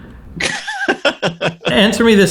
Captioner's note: laughs